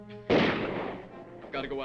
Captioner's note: guns firing